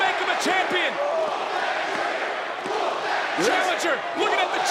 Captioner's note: crowd chants "Whoop that Trick"